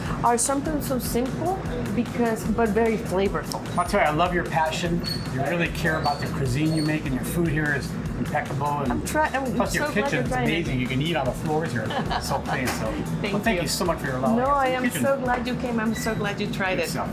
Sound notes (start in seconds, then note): 11.7 laughs